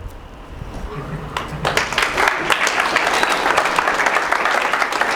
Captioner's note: applauding